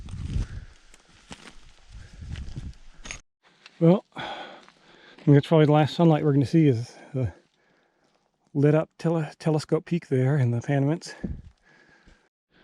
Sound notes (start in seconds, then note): 0.0 gravel crunching; 3.2 stones clinking